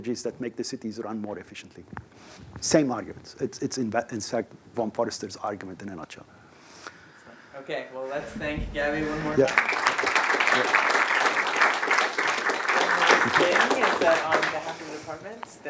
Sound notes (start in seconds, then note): 9.2 applause